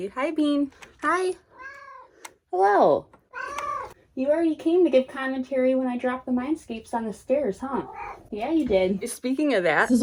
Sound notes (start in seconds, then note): 3.3 meow; 7.8 meow